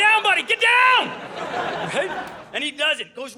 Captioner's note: audience laughing